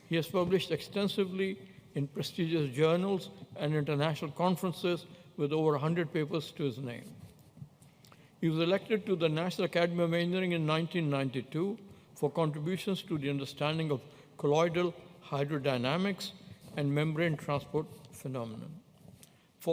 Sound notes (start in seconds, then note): none